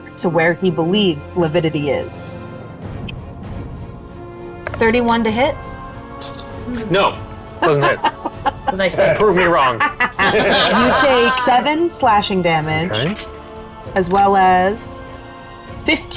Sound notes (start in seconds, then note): 4.8 die rattling; 7.0 scoffing; 7.6 laughing; 10.4 players laughing; 13.9 die rattling